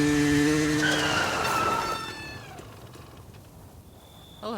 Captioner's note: tires screeching